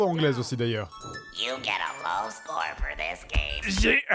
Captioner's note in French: voix caverneuse en anglais; parodie voix caverneuse